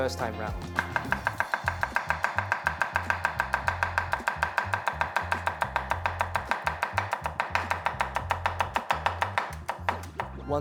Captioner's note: chopping